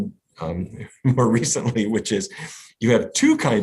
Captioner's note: laughs